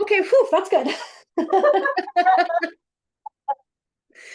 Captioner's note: both laughing